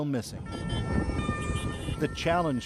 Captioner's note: speaking alternate language